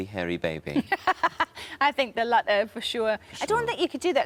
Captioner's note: laughs